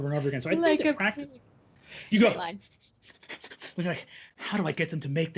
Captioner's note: pants